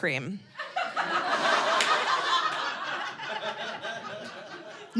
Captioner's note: audience laughing